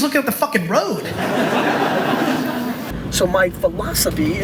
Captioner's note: audience laughter